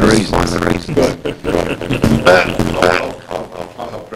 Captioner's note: laughter